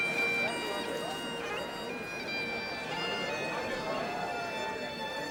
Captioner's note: group chattering